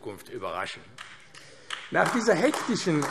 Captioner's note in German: Beifall AfD